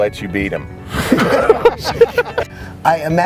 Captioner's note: laughing